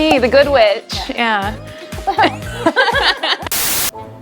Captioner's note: hosts laugh